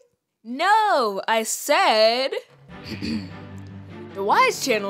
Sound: clears throat

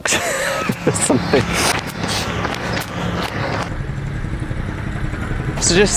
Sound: laughs; drilling machinery

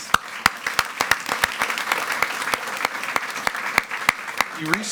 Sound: attendees clapping

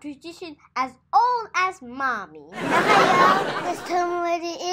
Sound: audience laughs

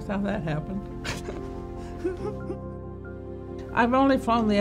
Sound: laughs

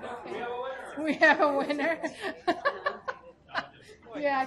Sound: laughs

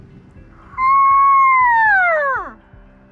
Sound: high-pitched call

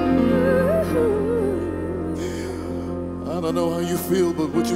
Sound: woman humming

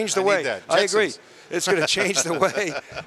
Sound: laughing

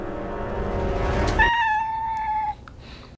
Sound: meow

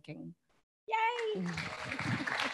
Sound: audience applauding; laughs

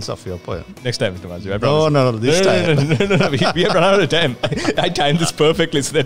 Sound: laughs

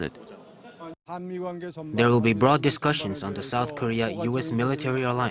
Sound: Korean

